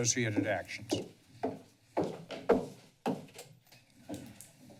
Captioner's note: footsteps; door opens